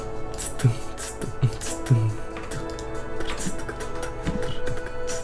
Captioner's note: beatboxing